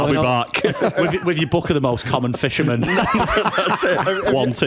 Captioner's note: laughter